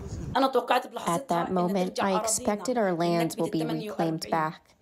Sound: through translator

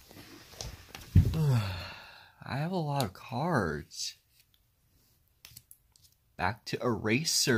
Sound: yawns

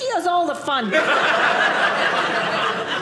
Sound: audience laughing

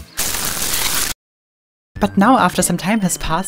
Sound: chaotic crunch sound

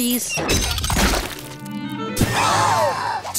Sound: gasping

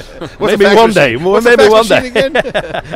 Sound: laughing

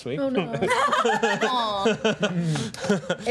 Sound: laughter

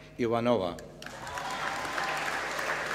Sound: applause

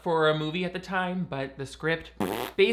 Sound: blowing raspberry

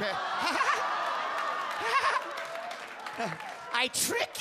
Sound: Bobby laughs

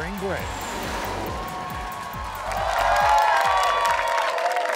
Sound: audience cheering

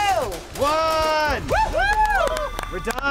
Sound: all cheer

